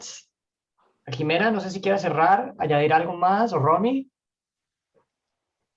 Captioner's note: speaking Spanish